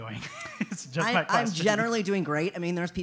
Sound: laugh

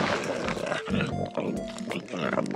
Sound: growls

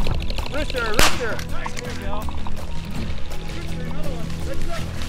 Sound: gun shoots

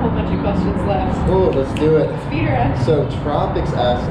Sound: snaps fingers

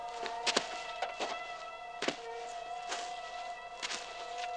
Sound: footsteps approaching

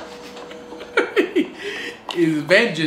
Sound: laughs

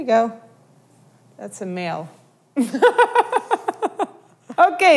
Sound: laughs

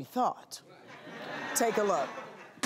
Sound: audience laughs

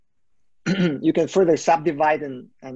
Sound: clearing throat

